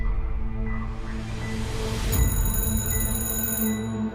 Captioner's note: suspenseful music; phone ringing